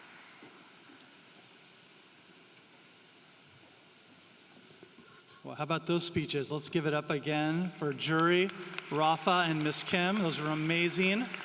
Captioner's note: applause